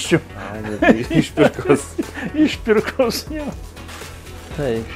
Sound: laugs

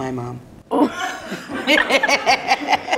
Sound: parent, child, and production team laugh

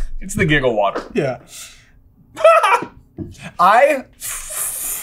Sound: utterly insane HA HA

